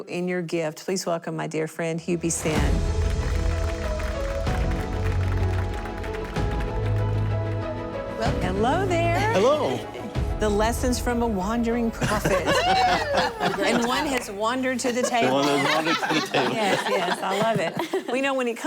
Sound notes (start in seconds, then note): 12.0 laughter